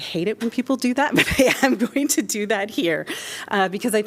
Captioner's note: laughter